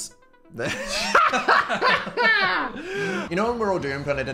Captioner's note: hosts laugh